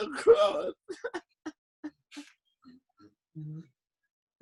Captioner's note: laughs